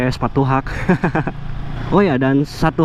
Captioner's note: chuckles